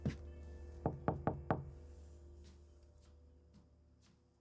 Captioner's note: knocking on door